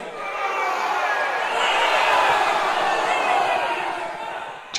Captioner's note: crowd cheering